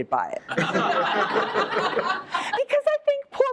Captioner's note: laughter